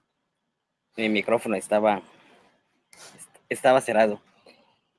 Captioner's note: speaking Spanish